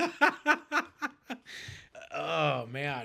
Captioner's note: laughing